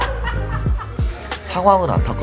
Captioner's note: chuckles